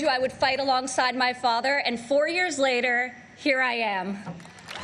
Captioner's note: applause